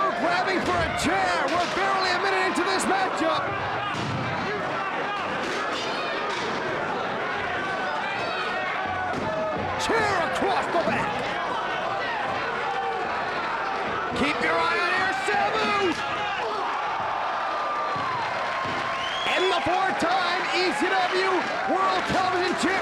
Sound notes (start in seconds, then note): 17.3 audience gasping